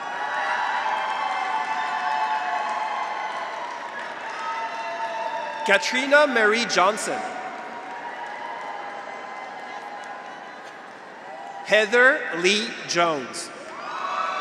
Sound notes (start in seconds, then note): 0.1 audience applauds; 0.1 graduates cheer; 8.1 graduates cheer; 14.2 graduates cheer